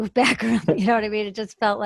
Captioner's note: laughs